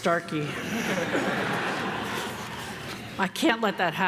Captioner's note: everyone laughing